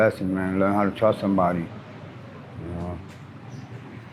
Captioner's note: traffic passes